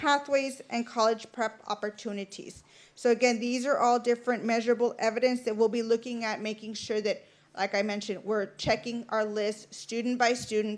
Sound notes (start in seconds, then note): none